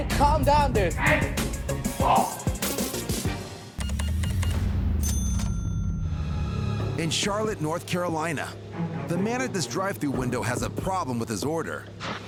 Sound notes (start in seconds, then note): 2.0 customer grunting in anger; 3.8 cash register beeps